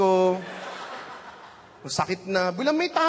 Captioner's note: laughter